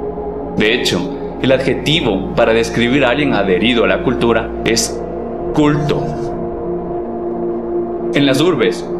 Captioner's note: cult in Spanish